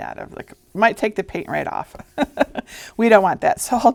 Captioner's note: chuckling